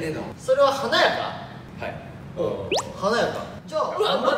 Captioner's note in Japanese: 小さい声で